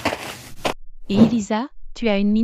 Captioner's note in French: FX - Footsteps - On Multiple Dirt - Walk; FX - Whoosh - 03